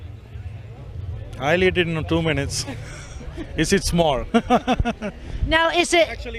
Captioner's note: chuckles